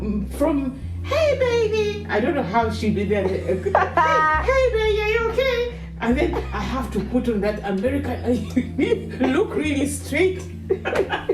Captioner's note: laughs in disbelief